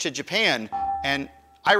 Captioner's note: buzzer dinging